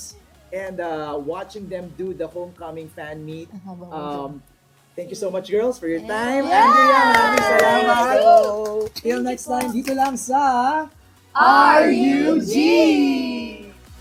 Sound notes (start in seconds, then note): 6.4 cheering